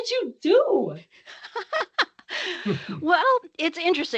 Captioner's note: laughing